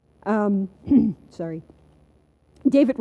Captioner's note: clears throat